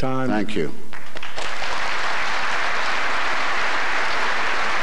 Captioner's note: applause